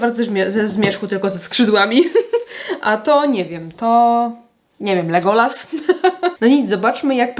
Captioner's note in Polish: śmiech